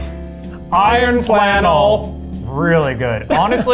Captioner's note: in Unison